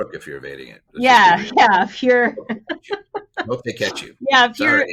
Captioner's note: laughs